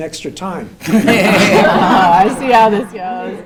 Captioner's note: laughter